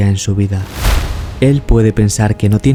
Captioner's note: fire